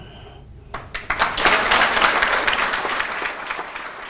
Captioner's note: applause